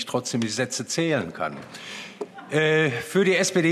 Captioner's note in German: Heiterkeit